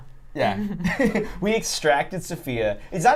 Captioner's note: both laughing